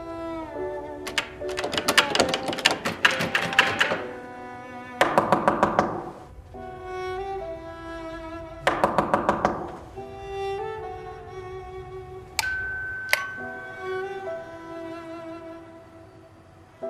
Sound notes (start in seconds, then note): 5.0 door knocking; 8.6 door knocking; 12.4 doorbell ringing